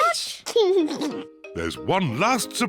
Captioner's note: laughs